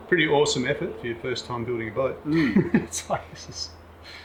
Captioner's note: laughing